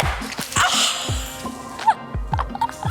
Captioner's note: laughs